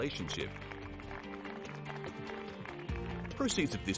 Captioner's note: crowd applauds